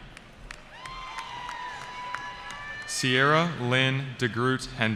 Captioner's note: cheering